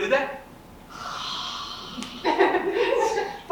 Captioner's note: sighs; audience laughs